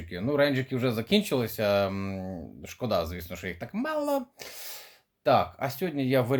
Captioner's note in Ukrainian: сопіння